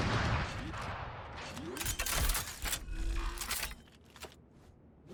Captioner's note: machine revs up